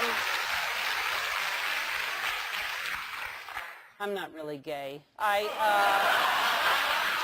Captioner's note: applause; laugh